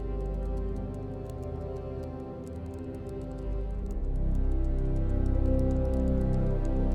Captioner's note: typing